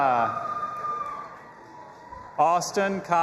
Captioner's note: audience applauding and cheering